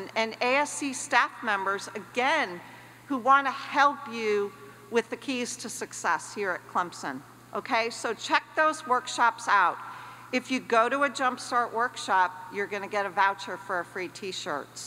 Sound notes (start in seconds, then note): none